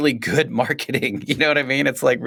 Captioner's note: laughs